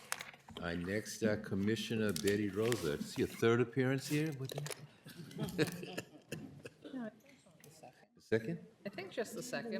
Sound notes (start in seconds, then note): 5.1 laughter